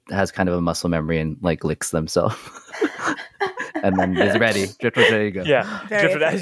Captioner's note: laughter